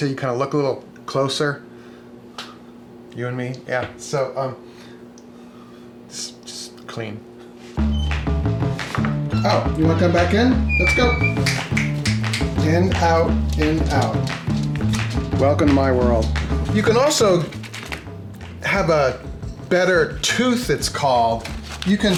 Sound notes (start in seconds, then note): 7.8 door squeaks; 9.0 upbeat music; 11.3 fingers snap